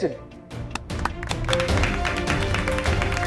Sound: clapping

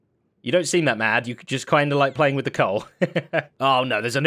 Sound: chuckles

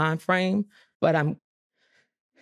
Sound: voice wavers

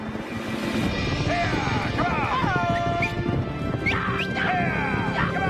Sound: Frank and William yelling

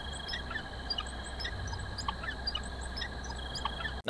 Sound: squikky squikky squeaks

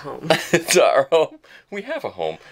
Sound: laughing

